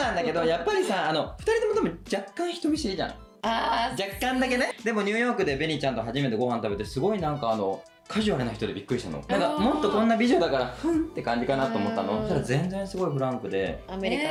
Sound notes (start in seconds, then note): 12.1 sassy